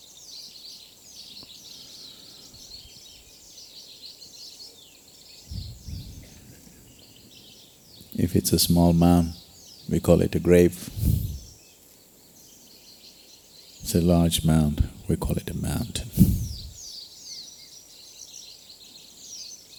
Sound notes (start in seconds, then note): 11.8 laughs